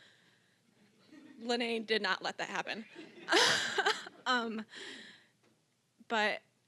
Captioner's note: all chuckling